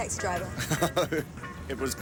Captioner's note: laughing